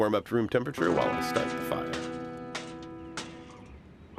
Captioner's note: chimney lighter bangs against smoker